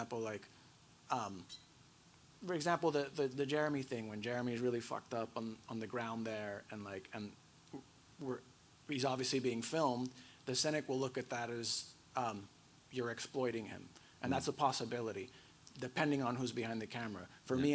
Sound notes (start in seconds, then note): none